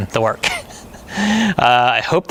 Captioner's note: chuckling